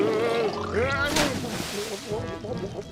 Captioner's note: gargling